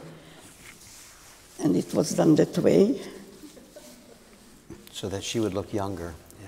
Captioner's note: laughter